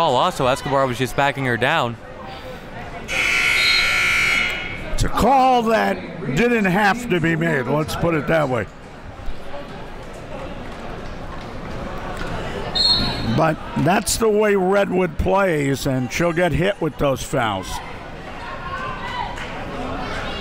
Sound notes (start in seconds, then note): 3.1 buzzer rings; 12.7 whistle blows